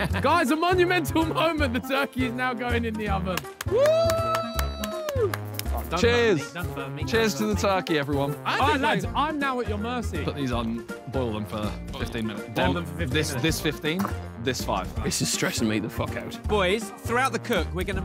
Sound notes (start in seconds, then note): 3.3 applauding; 3.6 cheering